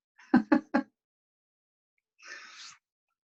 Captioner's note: laughs